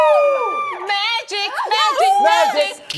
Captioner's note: in an excited voice